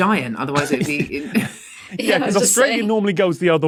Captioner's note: group snickering